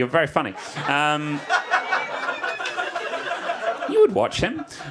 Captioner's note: audience laughs